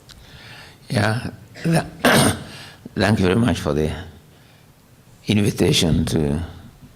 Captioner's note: clears throat